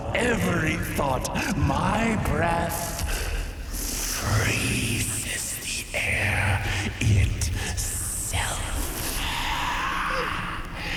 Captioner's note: the air chills as she slowly lowers to a whisper